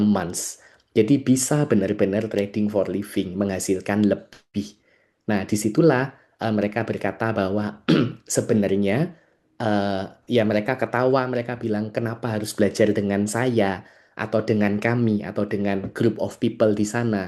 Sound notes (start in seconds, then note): 7.8 berdehem